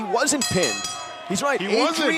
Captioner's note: bell ringing